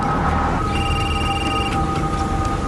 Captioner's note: телефонно звънение